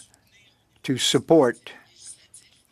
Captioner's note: speaking French